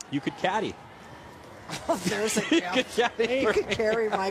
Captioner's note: laughter